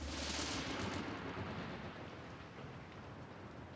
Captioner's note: thunder